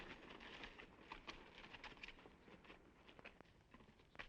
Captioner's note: horse hooves clopping